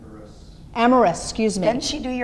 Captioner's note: voiceover